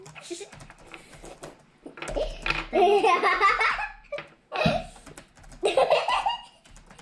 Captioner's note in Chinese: 一直可以聽到叭叭打字的聲音 xd